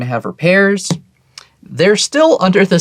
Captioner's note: taps table